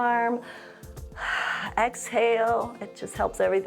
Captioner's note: inhales and exhales